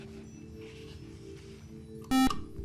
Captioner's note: beep